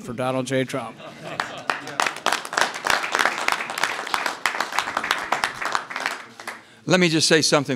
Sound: applause

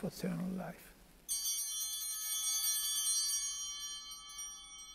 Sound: altar bells ringing

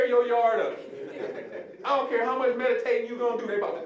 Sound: audience laughing

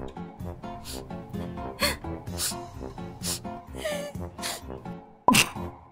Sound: sobs

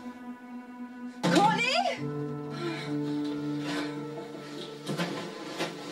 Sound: gasping

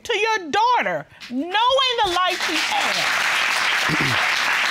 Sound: audience applauding

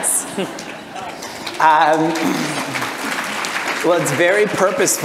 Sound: audience applause

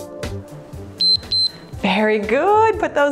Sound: timer beeps

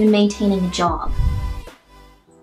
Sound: swoosh

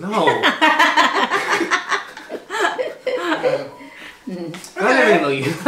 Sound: laughs

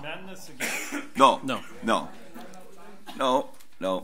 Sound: overlapping chattering

